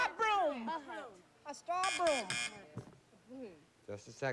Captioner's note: shouting various answers; buzz buzz buzz